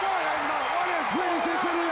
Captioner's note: bell ring; crowd cheering